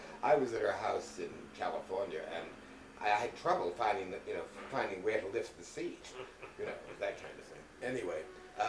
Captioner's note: laughter